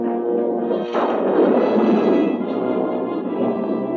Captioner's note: thunder crashing